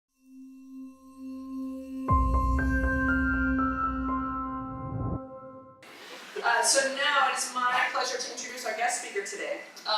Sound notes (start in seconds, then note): 0.2 bright music; 4.3 whoosh